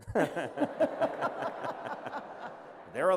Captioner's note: laughter